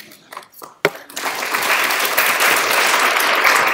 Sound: applause

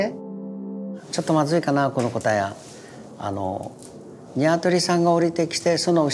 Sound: speaking in Japanese

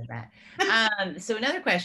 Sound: laughing

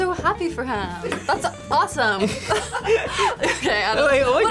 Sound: laughs

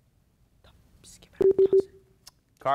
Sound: beep sounds

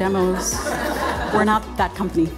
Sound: audience laughing

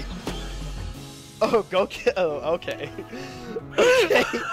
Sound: laughing

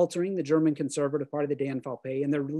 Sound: german

